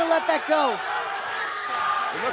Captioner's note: fans chanting